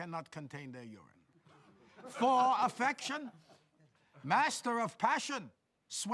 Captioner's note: laughter